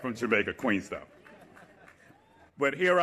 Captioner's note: laughter, cheering